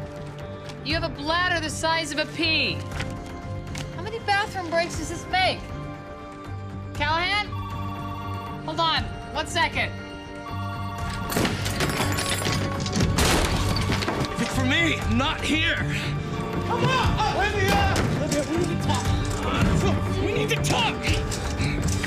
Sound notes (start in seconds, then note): 7.4 telephone ringing